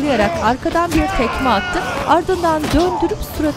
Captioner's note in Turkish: Çığlık sesi; Müzik - Gerilim